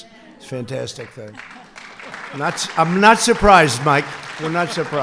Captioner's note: applause